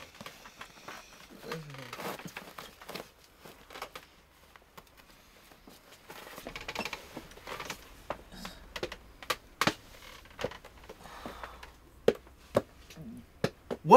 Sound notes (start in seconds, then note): 2.5 rope creaking; 5.7 pacing